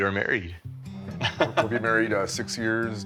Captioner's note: chuckles